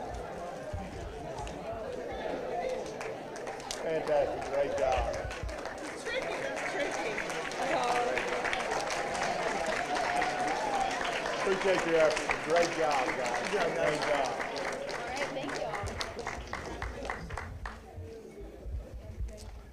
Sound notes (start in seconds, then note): 3.2 applause, indistinct chatter